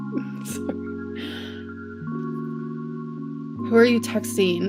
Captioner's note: giggles